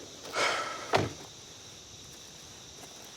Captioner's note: sighing